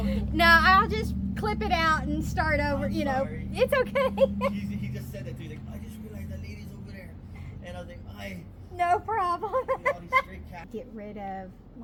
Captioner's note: distant voices in background